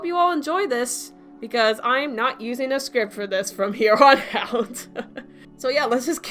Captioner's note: chuckles